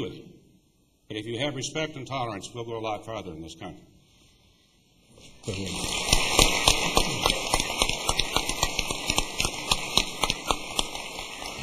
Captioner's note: applause